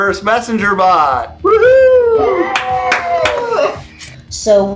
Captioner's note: applause